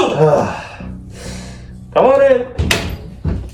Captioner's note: sighs